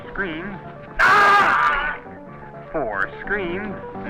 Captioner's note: Murdock yells